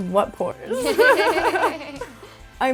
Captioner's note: laughs